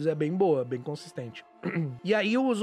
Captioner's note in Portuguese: pigarreia